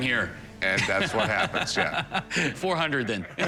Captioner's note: laughs